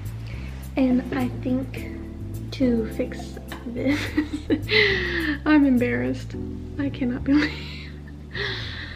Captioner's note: laughs